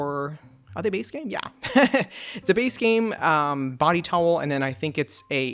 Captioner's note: laughs